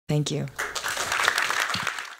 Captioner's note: applause